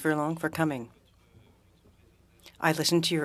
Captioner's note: speaking French